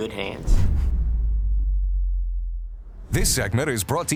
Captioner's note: title whooshes